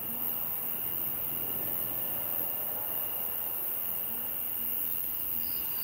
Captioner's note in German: Grillenzirpen